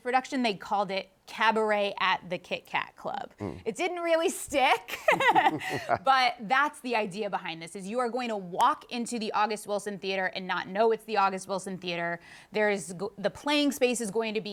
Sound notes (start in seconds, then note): 4.9 both laugh